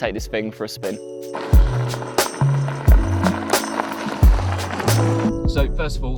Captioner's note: soft music; tires driving against gravel